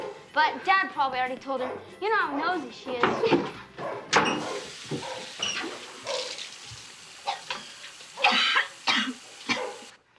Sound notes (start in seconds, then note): 3.1 gagging; 4.2 water running; 8.1 vomiting